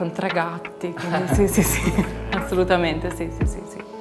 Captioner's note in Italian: risate